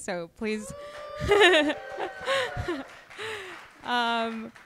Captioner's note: audience cheering